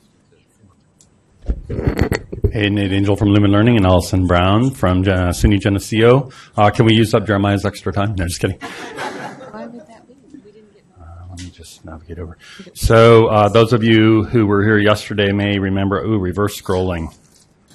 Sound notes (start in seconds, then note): 8.6 laughing